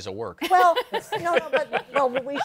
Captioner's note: laughter